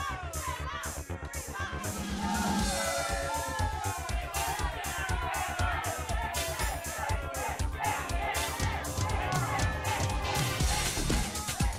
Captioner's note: crowd chatter